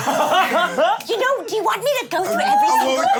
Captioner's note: laughs